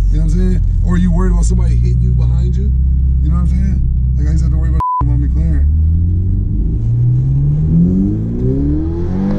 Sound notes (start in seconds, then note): 4.7 beeps; 5.0 engine roars